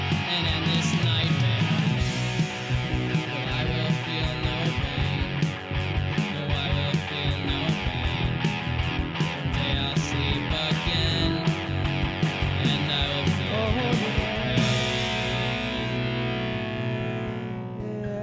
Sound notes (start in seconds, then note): 14.1 man vocalizing